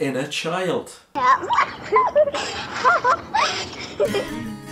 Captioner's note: children laughing; folk guitar music